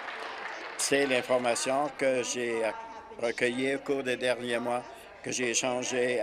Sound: applause

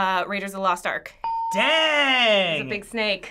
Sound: ding

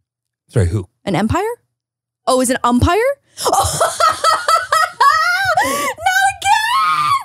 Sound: laughs

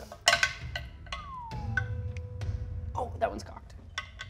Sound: whistling

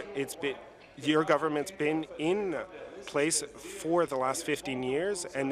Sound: speaking in French

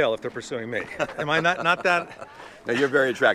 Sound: laughing

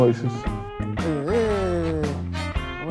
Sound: Mimicking Shinchan

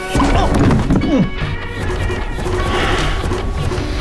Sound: grunting

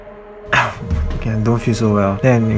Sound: cough

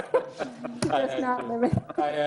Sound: laughs

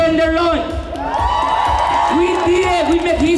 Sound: cheers

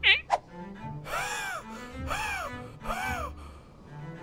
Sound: wheezing

